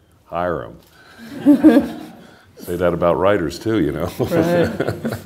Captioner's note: laughter